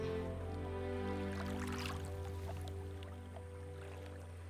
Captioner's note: water splashing